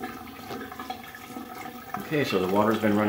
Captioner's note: water gurgling